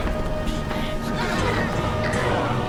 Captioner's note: dramatic orchestral music; grunting